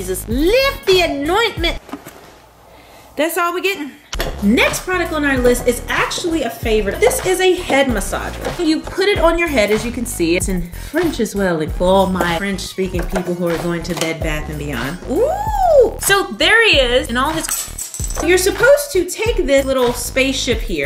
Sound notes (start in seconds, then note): 17.4 light Clang